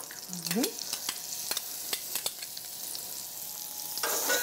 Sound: oil sizzling

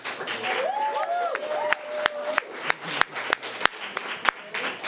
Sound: speech drowned out by applause; audience cheering

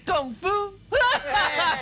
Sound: laughs

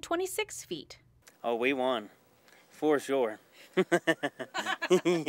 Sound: laugh

